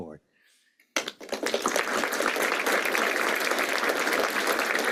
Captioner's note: applause